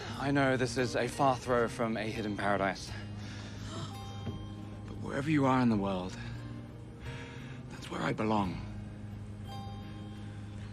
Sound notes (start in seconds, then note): 3.7 passenger gasps